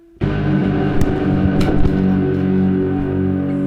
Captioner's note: thud